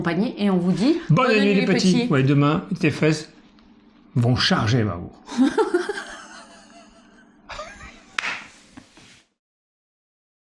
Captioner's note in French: rires